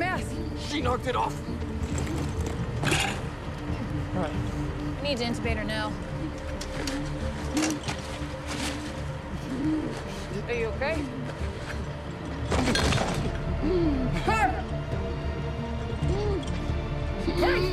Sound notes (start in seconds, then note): 9.4 wheezing continues